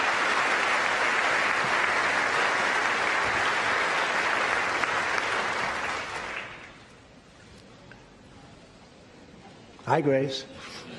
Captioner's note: applause